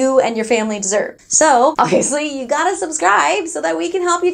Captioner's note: laughing